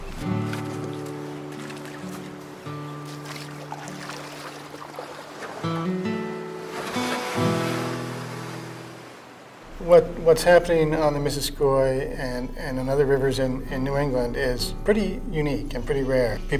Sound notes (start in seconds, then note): 0.3 forlorn guitar music; 4.9 water lapping